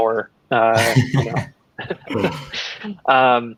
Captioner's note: laughing